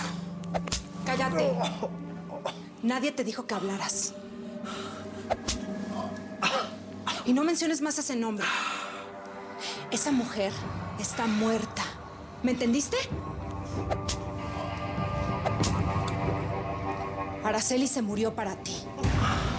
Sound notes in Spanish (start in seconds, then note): 1.4 quejidos; 4.7 quejidos; 13.9 sonido de los latigazos